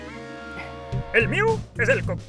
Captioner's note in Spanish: ríe